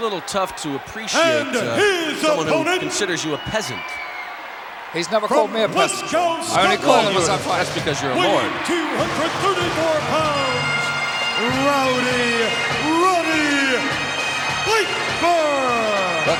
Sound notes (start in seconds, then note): 4.0 audience cheering; 14.3 upbeat music